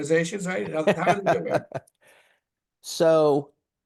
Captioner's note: laughing